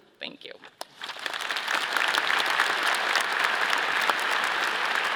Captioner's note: all applauding